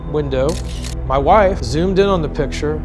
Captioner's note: camera clicking